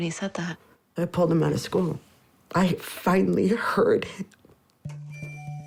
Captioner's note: voice breaks